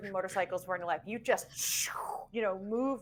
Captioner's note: trilling